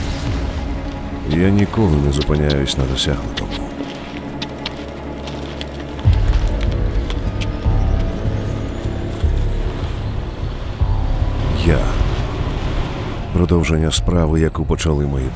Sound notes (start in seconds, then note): 3.2 sound of footsteps; 3.2 tense music playing